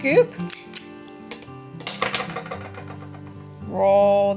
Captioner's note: gentle bright music; scoop rattling